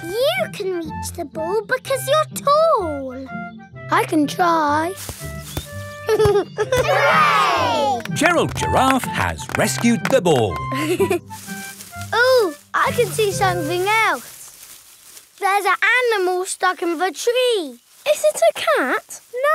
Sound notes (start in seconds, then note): 4.9 leaves rustle; 6.0 giggling; 11.0 leaves rustling